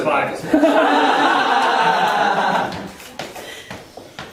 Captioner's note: audience laughing